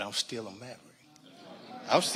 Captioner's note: audience laughing